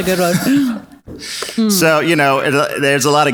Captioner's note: both laugh